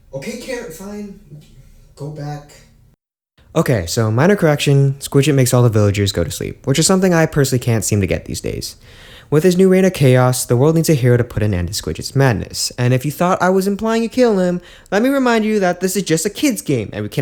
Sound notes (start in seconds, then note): 8.8 inhales